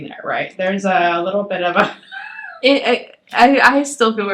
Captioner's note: laughs